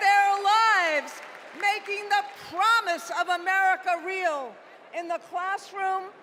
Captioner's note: cheers and applause